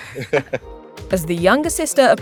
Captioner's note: laughing